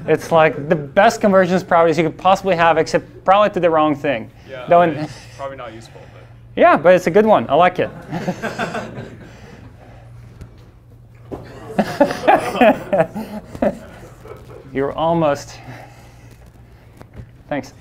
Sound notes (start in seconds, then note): 8.6 class laughs; 11.3 laughs